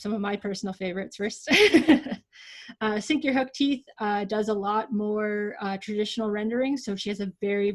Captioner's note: laughs